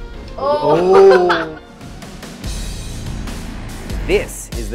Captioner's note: groans and laughs